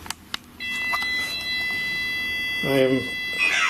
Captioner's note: machine beeping